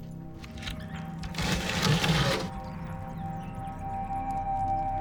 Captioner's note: door scrapes